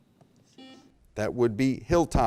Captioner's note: buzzer beep